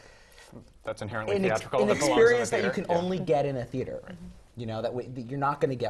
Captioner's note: laugh